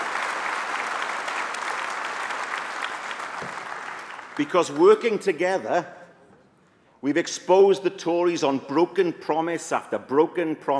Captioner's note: applause